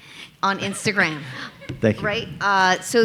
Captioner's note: audience laughing